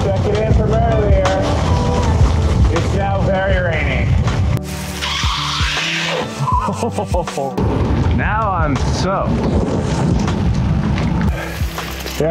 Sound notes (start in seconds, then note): 4.7 bike skidding; 6.3 chuckles